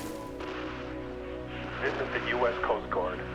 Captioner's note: water splashing; static buzzing